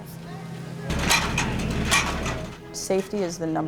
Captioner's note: metal ladder clanging